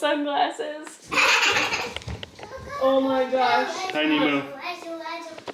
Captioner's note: laughs and chatters